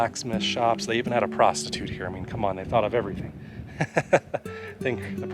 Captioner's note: laughter